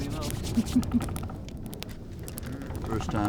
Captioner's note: chuckles